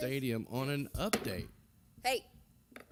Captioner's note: gavel Bang